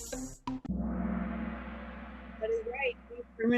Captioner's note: gong